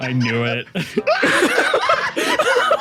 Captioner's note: laughs